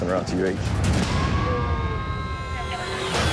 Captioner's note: siren wailing